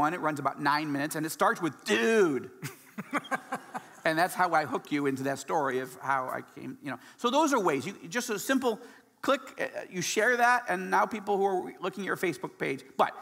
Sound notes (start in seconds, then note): 2.8 laughing